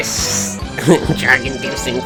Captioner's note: chuckles